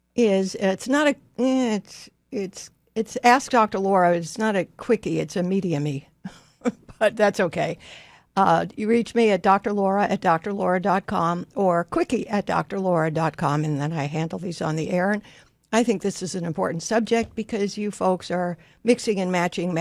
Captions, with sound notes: is... It's not a... Eh, it's, it's, it's Ask Doctor Laura, but it's not a quickie, it's a medium-y (laughs) . But that's okay. Uh, you reach me at doctorlaura@doctorlaura.com or quickie@doctorlaura.com and then I handle these on the air and I think this is an important subject because you folks are mixing and matching